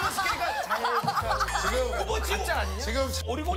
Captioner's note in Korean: 어색한 웃음